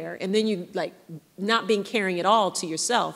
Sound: none

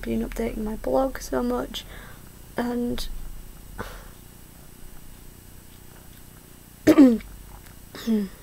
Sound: coughs

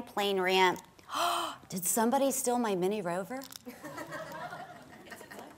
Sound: gasps; audience laughs

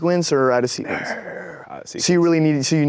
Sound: sighs

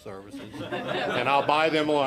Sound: audience laughing

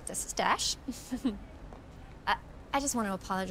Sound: chuckling

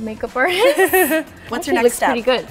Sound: both laugh

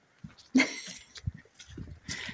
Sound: laughs

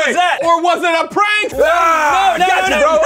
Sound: screaming

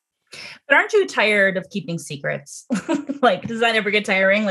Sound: laughs

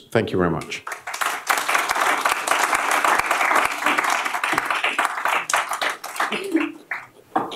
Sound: applause

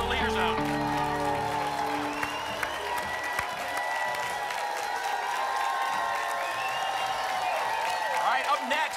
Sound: applause and cheering

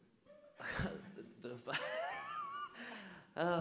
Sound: audience laughs

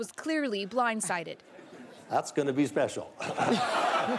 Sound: laughter

